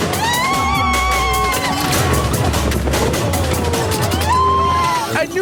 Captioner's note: oh lawd the screamin; still screaming